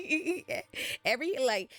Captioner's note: laughs